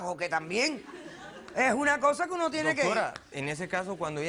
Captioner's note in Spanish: Risas